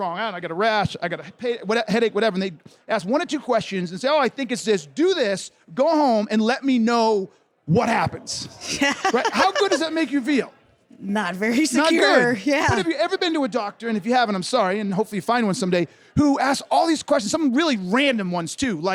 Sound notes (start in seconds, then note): 8.5 laughs